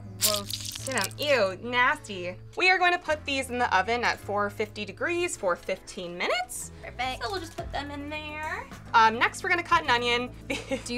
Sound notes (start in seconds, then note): 0.0 pepper squelching; 10.5 laughs